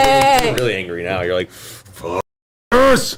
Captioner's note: all cheer